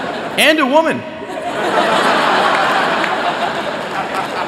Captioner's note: laughter